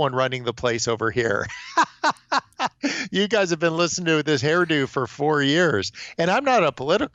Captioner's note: laughs